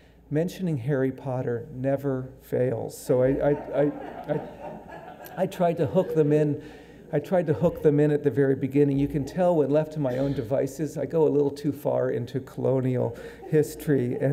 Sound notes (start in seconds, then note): 3.2 audience laughing